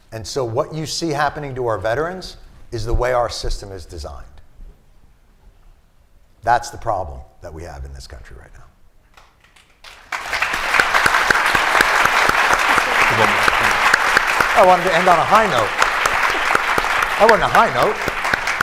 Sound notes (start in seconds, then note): 9.5 applause; 18.4 applause